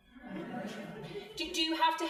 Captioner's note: crowd laughing